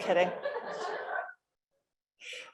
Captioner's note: laughter